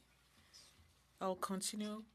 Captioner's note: speaking French